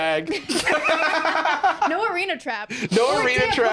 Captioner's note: laugh